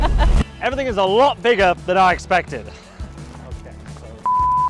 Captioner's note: beep